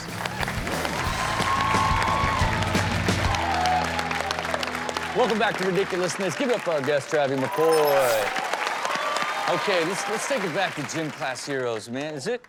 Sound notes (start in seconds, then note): 0.0 upbeat music; 0.2 audience cheers and applauds; 8.6 audience cheering and applauding